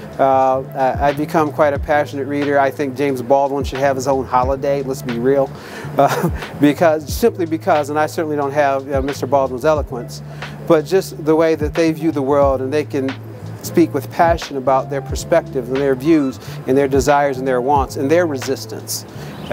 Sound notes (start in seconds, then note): 5.8 chuckles